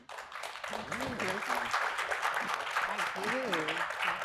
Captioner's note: audience applauding